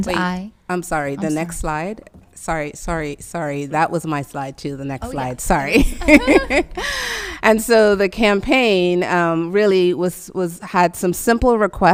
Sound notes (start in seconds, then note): 5.9 laughing